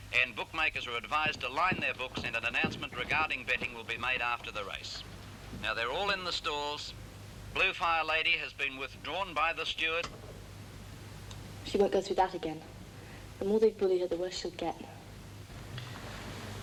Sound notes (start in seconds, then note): none